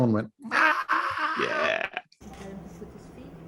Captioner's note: screeches